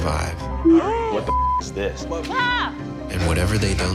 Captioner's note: beep